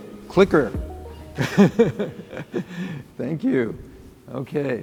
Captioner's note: laughs